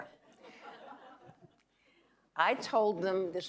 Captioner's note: audience laughing